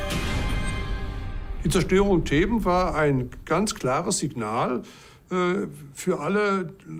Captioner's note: music fades; in German